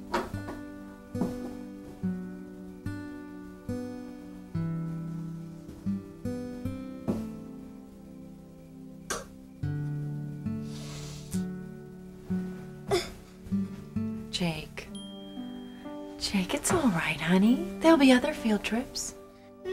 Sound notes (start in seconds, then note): 0.1 gentle music; 10.5 quiet sobbing